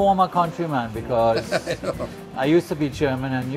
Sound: laughs

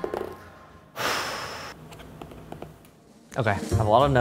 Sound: sighing

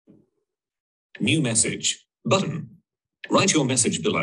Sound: computer Voice

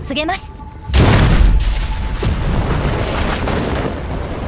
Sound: explosions

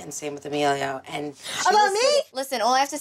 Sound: shouting

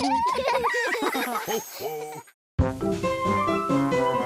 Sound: family giggling; wheels on telescope squeaking

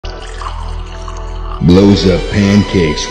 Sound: syrup noises idk

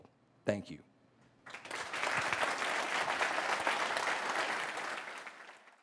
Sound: applause

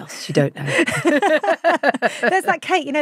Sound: both laughing

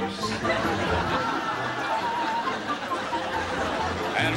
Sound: laughing

